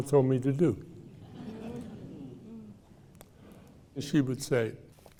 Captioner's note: audience laughing